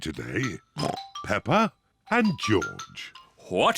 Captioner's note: oinks